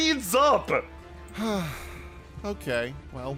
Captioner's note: sighs